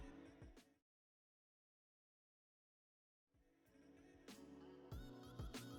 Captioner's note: silence